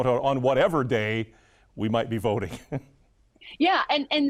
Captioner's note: chuckles